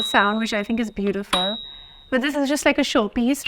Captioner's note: key chiming